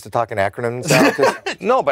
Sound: laughs

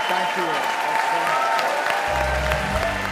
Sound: audience cheers

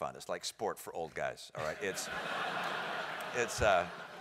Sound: laugh

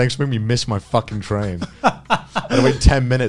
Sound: everyone laughs

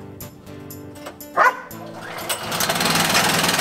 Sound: dog Barks

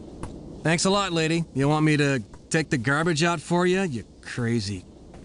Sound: mutters

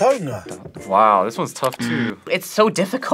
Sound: buzzer rings

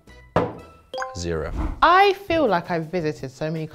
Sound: glass thuds; audio whooshing

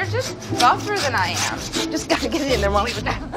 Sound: meat sawing; laughs

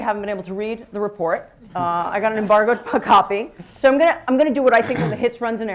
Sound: laughter

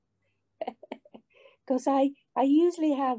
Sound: she chuckles

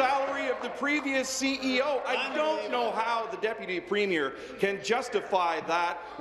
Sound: applause

